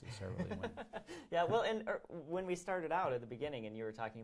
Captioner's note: laughs